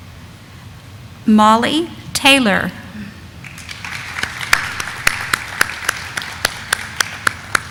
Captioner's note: audience applauding